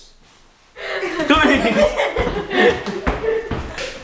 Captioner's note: laughing